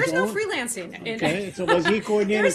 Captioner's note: laughter